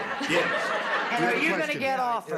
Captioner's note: laughter